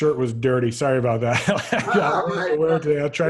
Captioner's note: laughs